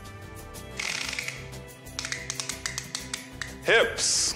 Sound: tape measurer clicks

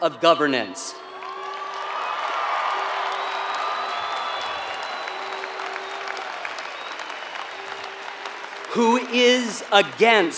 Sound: applause

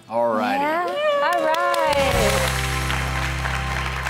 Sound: cheering

